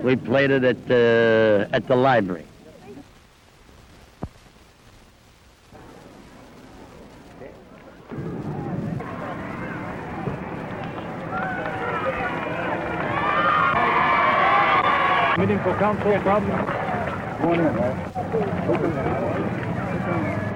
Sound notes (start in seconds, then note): 8.2 conversations and crowd noise